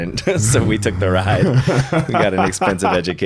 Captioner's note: laughing